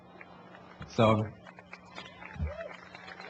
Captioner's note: applause